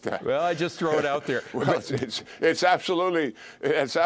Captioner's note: laughter